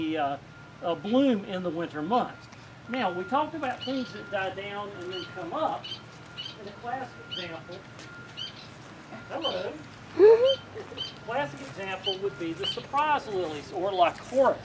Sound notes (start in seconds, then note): 7.0 bird chirping